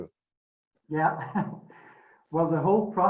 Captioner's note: laughs